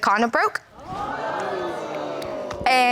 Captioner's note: audience gasps